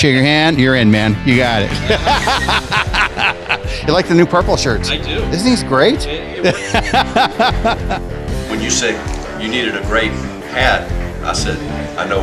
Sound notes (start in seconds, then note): 1.7 laughter; 6.4 laughter